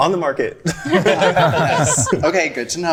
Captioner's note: group laughing